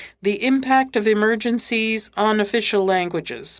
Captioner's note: speaking French